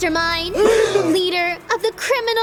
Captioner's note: group gasps